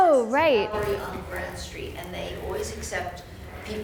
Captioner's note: voiceover